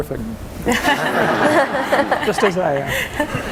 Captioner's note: audience and panel laughing